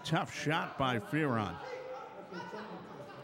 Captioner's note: yelling